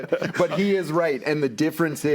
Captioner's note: panels laughing